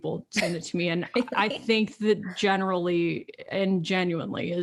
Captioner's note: chuckles